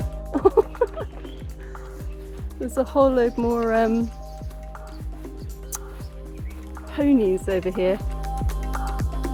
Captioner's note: laughing